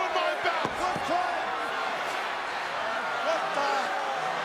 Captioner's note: crowd shouts